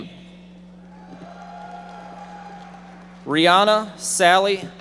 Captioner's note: audience member shouting